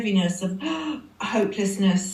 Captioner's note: gasp